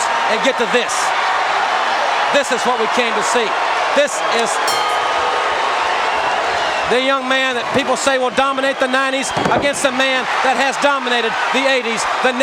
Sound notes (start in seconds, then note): 1.5 crowd cheering; 4.6 bell chiming